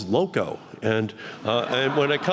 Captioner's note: laughter